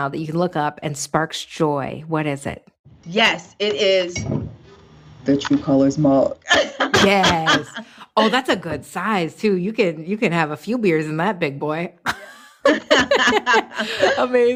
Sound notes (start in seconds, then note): 6.4 laughing; 12.1 laughing